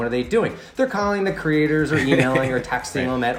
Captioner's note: laughs